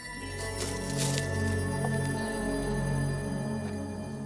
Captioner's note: fire crackling